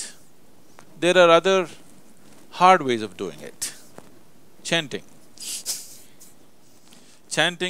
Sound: laughs

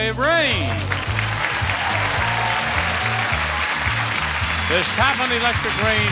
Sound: audience cheering and clapping

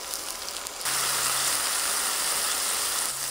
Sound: sizzling

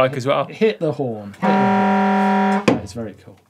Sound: horn blares

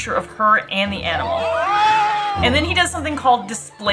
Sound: clip: people shouting and screaming

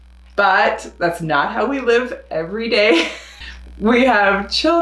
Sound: laughs

